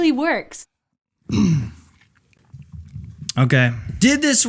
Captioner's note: clears throat